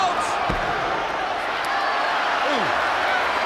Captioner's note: crowd chatter